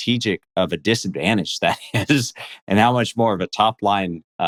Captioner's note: laughs